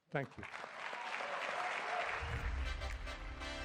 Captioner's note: cheering; upbeat music